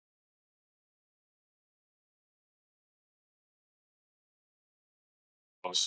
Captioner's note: audio cuts out